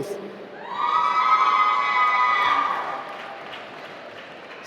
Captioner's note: applause